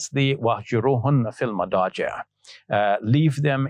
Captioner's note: speaking Arabic